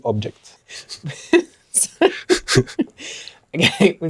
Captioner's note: laughter